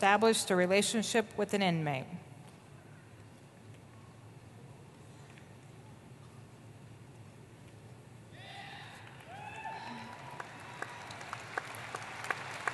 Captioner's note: applause